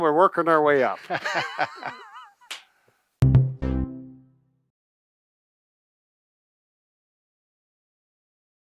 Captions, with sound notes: We're working our way up. (both laugh) (cheerful tone)